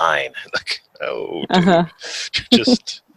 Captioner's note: chuckles; chuckles